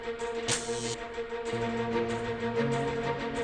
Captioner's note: sign buzzes